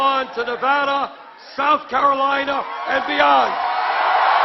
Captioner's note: applause